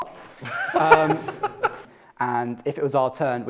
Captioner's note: laughter